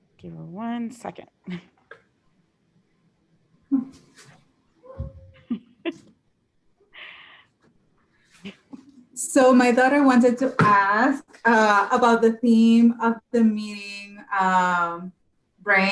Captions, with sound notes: Give her one second. -: (laughs) So my daughter wanted to ask about the theme of the meeting brain